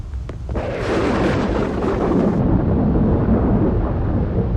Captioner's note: thunder rumbling